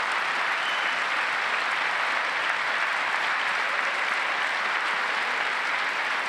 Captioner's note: applause